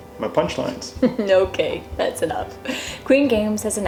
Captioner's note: laugher